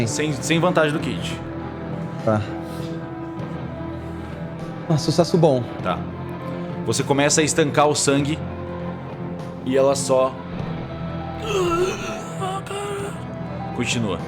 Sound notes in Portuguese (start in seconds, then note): 11.4 Grunhidos